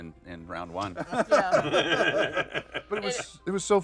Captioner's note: laughter